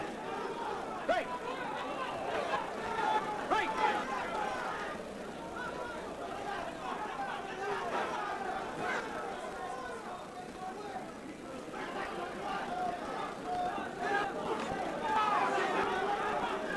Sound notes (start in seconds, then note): 4.5 audience cheers, yells instructions